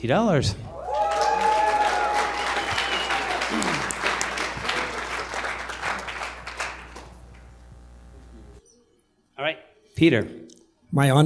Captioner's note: applause